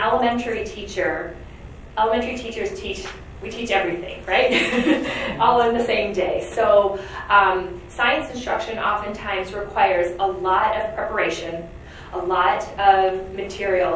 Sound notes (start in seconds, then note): 4.4 laughs